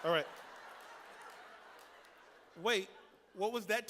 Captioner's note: laughter